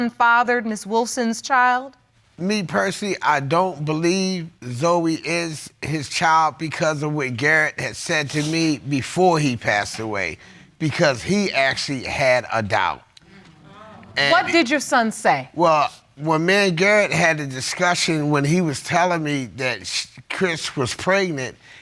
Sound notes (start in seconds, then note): 13.3 audience exclaim